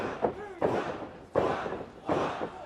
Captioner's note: fans chanting